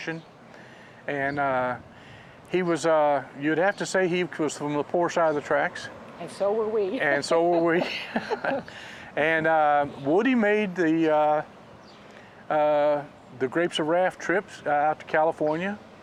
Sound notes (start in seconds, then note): 7.4 laughs